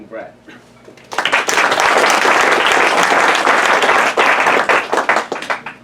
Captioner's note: applause